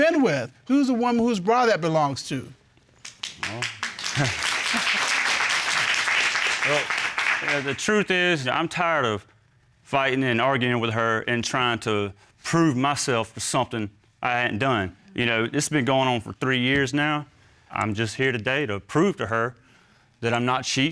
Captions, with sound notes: Who's the one whose bra that belongs to? Well... [chuckles] Well, yeah, the truth is, you know, I'm tired of... fighting and arguing with her, and trying to prove myself for something I hadn't done. You know, this been going on for three years now. I'm just here today to prove to her than I'm not cheating,